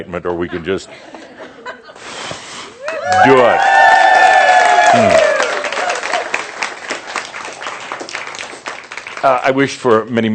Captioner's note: cheers and applause